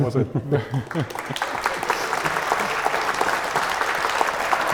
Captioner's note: audience applauding